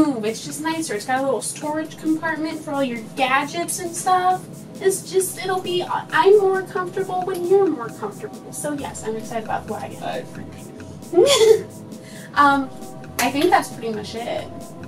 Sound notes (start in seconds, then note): 11.1 laughs